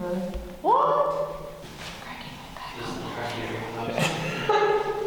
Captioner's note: laughs